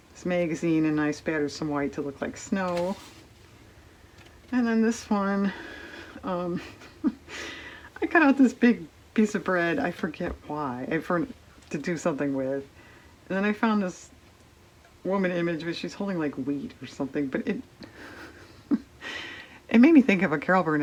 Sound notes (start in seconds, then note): 6.5 laughs; 17.9 laughs